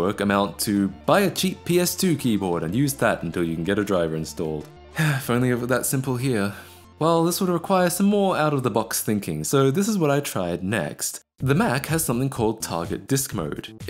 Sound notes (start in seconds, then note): 5.0 sigh